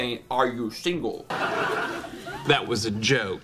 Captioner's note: laughter